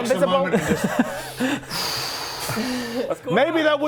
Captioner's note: deep breaths